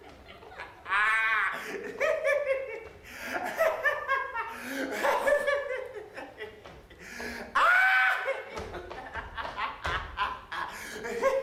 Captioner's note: laughing